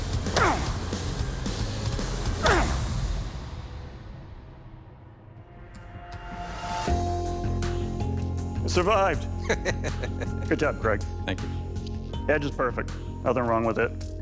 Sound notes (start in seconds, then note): 4.8 tense music playing; 9.2 laughs